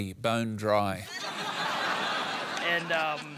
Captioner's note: laughter